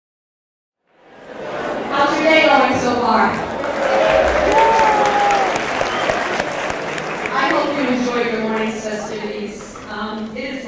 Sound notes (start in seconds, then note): 2.0 voiceover; 3.3 crowd cheers and applauds